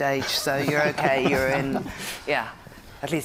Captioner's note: panel laughing